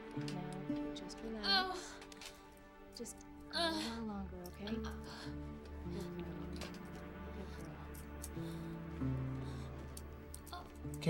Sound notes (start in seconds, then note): 4.8 gasping lightly